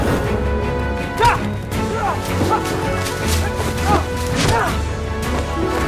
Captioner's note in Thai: เสียงการต่อสู้